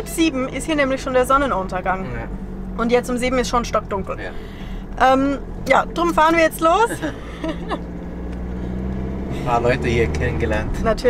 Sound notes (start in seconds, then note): 6.9 laughter